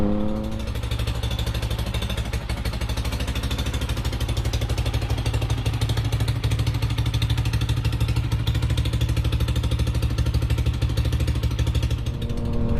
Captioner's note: engine running